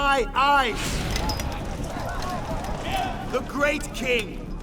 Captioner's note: indistinct chatter